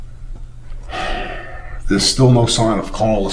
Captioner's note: sighing